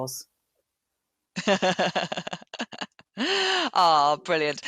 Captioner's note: laughing